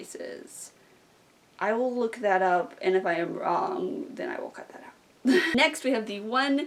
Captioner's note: laughs